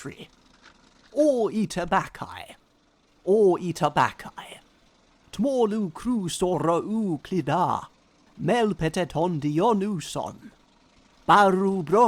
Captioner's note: reads Greek